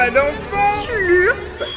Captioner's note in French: slurp